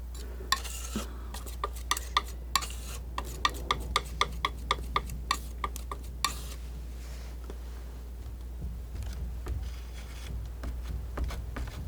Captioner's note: tapping